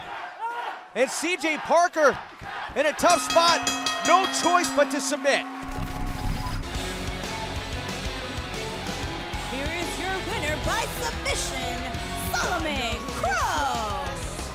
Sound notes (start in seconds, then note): 0.0 fans chanting; 5.1 bell rings